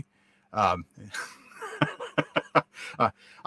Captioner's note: guy laughs